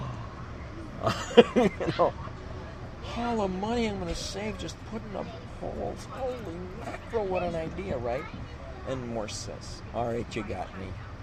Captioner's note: laughs